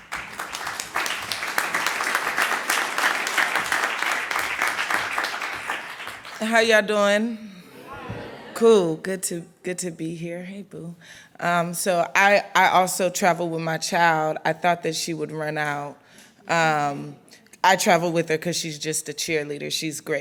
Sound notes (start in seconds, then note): 0.0 clapping; 7.6 crowd